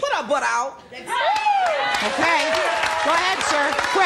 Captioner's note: applause